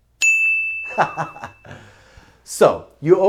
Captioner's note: laughs